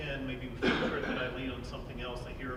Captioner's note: coughing